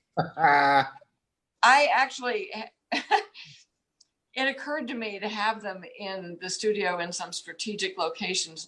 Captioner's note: giggles